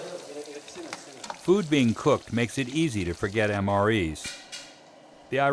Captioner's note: voiceover